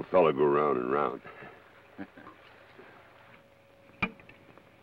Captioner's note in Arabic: جوشوا يضحك